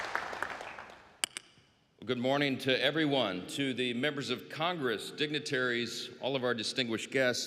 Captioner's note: applause